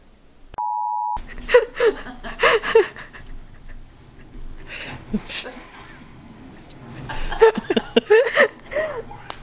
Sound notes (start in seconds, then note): 1.2 laughing